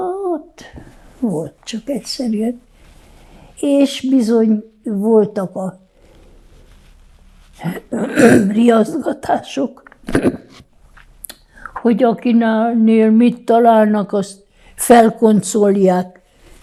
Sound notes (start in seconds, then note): 8.0 coughing; 10.0 clears throat